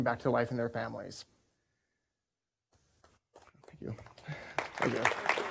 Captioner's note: applause